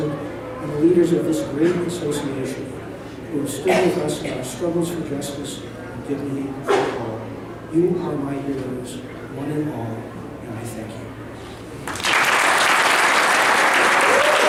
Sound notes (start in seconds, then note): 11.8 applause